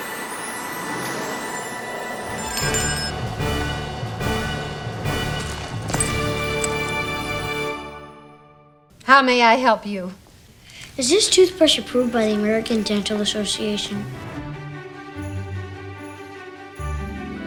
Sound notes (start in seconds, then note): 3.0 bell ringing; 4.0 upbeat music; 14.7 upbeat music